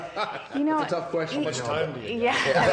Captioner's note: laughing